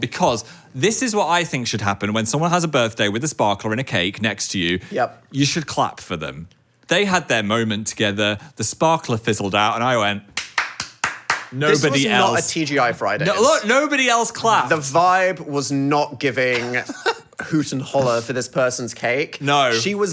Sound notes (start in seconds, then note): 10.3 clapping hands